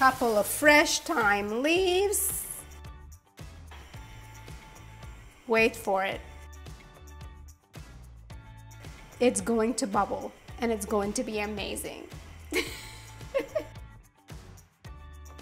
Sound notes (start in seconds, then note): 13.2 laughs